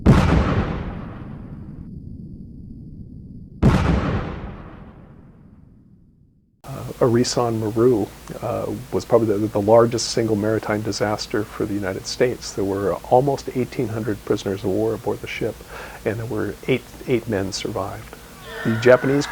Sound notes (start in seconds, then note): 0.0 boom; 3.5 boom